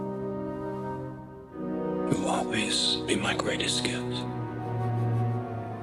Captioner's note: whispers